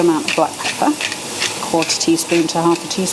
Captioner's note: pepper mill grinding